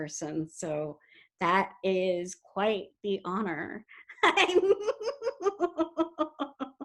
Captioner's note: laughs